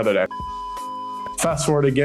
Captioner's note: signal beeping